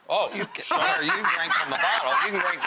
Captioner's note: laughs